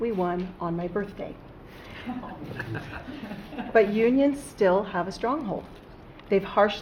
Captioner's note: laughter